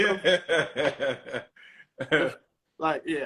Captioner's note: laughter